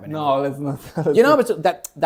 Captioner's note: laughs